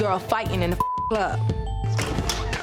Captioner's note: beep